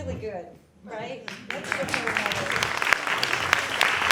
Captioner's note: applause